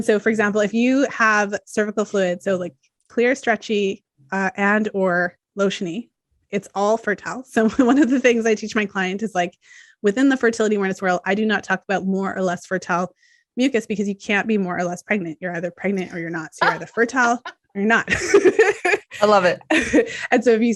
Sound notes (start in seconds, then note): 7.9 chuckles; 18.1 laughs